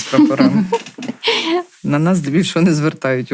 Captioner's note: laughter